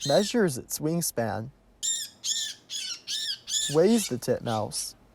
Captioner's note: birds chirps